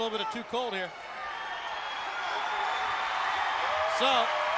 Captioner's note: crowd cheering